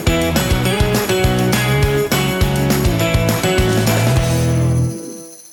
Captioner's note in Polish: Aplauz